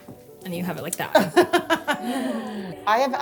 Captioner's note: laughs